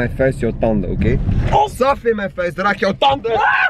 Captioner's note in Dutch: Bumper raakt drempel